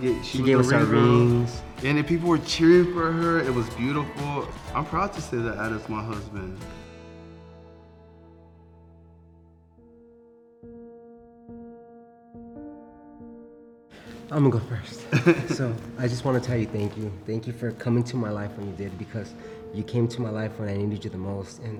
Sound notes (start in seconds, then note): 4.0 crowd cheering softly; 9.9 bright piano music; 15.1 chuckling